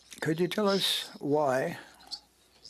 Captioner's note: speaking French